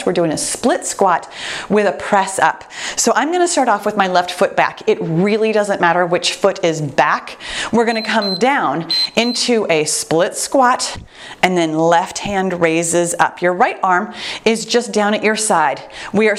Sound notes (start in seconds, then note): 7.8 timer beeps